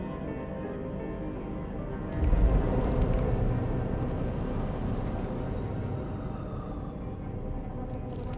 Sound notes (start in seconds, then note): 0.0 light dramatic music; 1.4 high pitched ringing